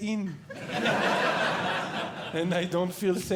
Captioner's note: audience Laughing